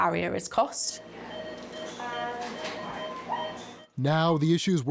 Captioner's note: machine beeping